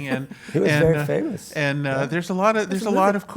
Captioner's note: laugh